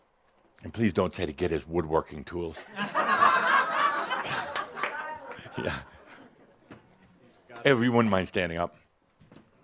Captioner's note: laughter